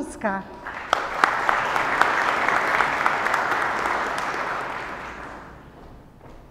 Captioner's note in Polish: oklaski